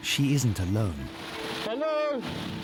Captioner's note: wind swooshing